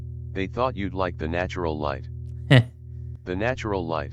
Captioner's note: heh